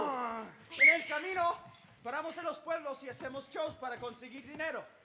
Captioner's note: speaking Spanish